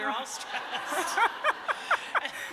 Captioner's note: laughter